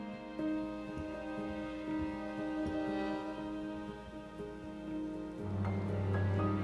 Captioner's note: SE : Knock knock knock